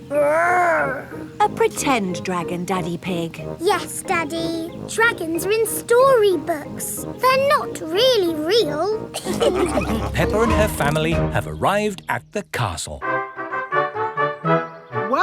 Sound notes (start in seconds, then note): 9.2 all laughing; 13.0 fanfare playing